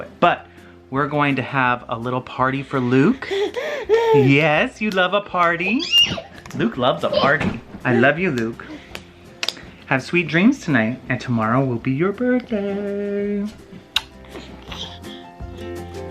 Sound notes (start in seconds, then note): 3.4 claps and giggles; 5.9 screams; 9.4 kissing sound; 13.8 kissing sound